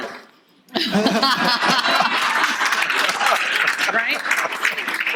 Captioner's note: audience laughter